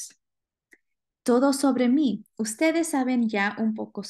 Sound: speaking spanish

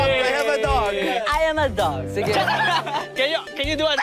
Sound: laughs; miggy barks enthusiastically

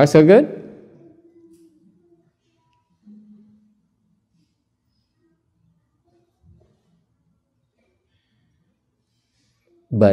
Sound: silence

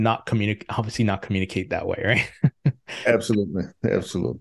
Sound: chuckles

